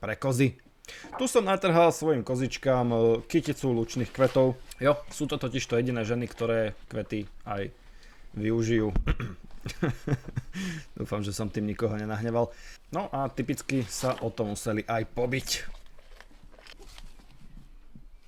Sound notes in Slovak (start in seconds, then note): 9.0 odkašľanie; 9.5 smiech